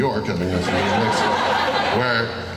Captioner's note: laughing